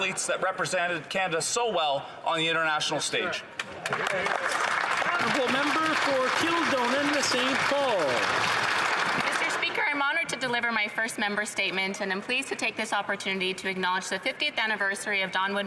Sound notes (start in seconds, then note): 6.6 some Applause